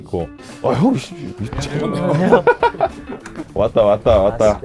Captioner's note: door opens